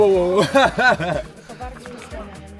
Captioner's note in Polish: laughs